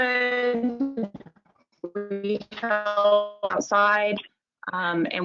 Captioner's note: mic glitching